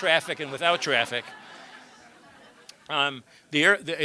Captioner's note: laughter